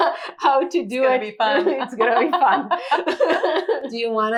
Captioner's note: both laughing